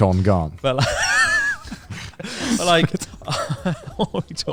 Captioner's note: laughs quietly